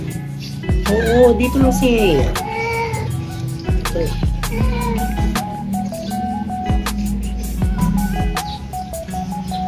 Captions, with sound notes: [Marble Meowing] Yeye is here [Mapa Meowing]